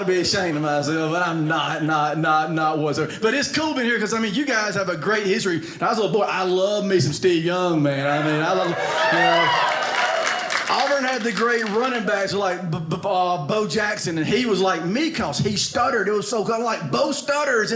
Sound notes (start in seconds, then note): 8.0 audience cheers